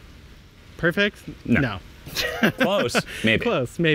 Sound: laughs

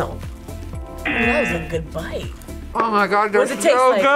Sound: buzzer

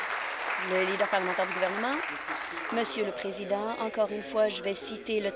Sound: applause

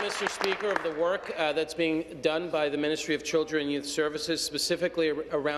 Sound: applause

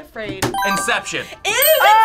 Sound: buzzer rings

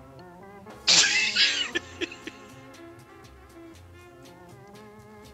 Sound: laughs

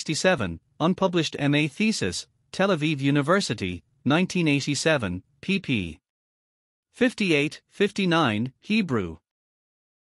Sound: Hebrew

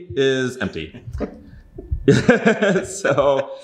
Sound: both laughing

